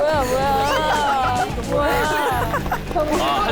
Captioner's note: cracking up